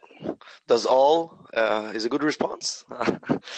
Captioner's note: chuckles